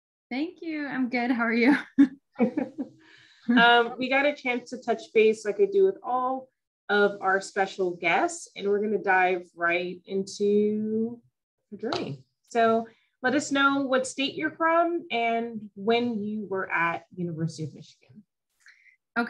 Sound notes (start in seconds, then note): 2.4 chuckling